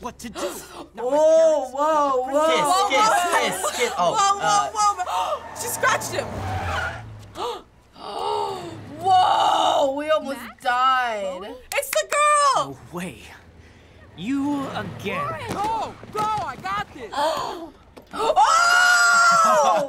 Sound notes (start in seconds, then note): 0.3 gasps; 5.0 gasps; 6.2 car tires squealing; 7.2 gasps; 11.6 claps; 17.5 gasps